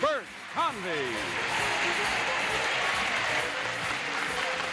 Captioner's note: applause